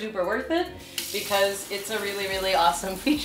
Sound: tap water running

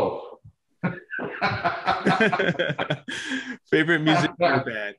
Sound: chuckles

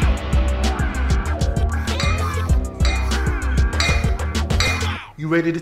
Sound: metal clanking

